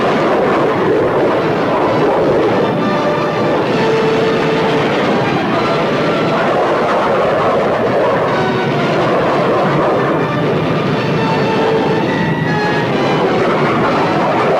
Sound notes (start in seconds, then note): 0.2 plane engines roaring; 3.8 explosion booming; 6.7 plane engine roaring; 8.3 explosion booming; 10.9 plane engines roaring